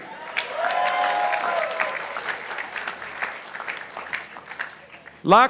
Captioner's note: participants applauding